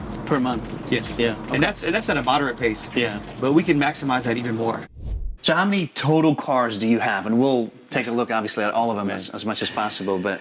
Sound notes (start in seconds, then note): 4.8 air whooshing